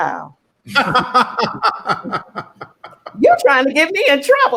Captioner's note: laughing